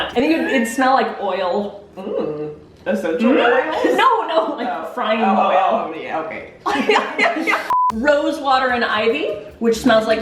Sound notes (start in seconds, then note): 6.7 both laughing; 7.7 beeping